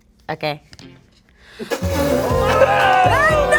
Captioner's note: gasping; group cheering